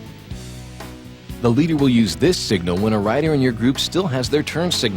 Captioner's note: voiceover